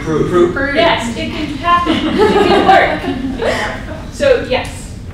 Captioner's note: laughter